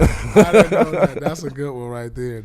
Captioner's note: laughing